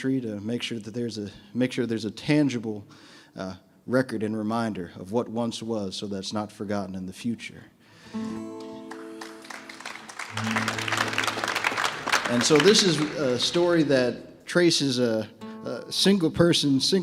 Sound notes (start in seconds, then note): 8.2 audience member applauds; 8.3 audience members applaud